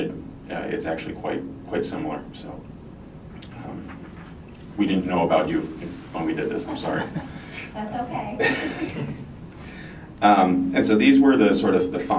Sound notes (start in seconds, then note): 6.6 rep laughs; 9.6 laughs